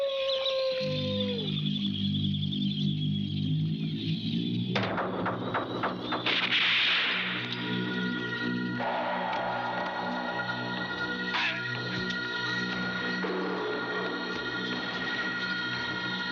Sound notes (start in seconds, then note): 0.2 birds chirping; 3.8 knocking on door; 6.3 eerie music; 11.5 birds chirping